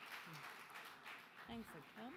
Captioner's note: audience applause